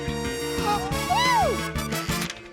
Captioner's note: gasps